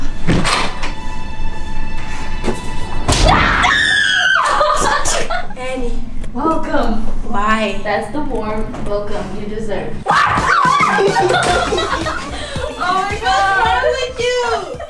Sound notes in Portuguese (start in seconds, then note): 3.2 Gritos; 10.0 Gritos